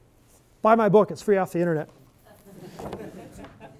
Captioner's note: laughter